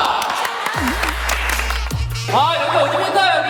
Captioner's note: Tepuk tangan